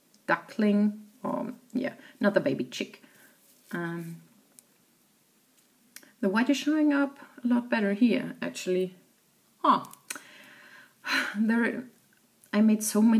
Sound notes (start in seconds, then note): 10.2 exhales audibly